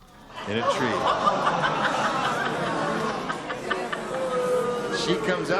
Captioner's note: laughter